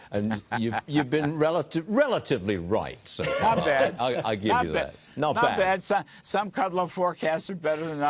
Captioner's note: laughter